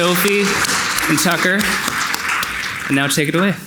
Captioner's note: audience clapping